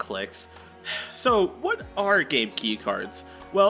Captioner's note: sighs